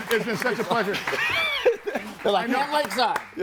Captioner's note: group laughs